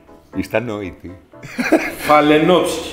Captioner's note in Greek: γελάει